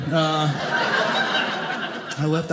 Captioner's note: audience laughing